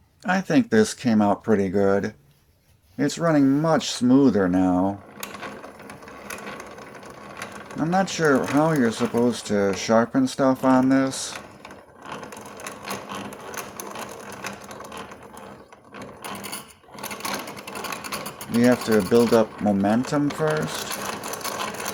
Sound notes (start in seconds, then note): 5.4 smooth grinder sound; 12.0 grinder sound